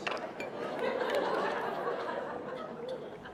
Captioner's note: laughter